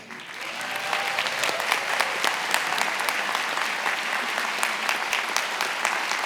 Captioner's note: attendees applauding and cheering